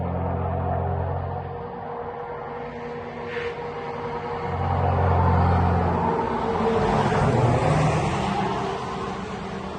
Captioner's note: car drives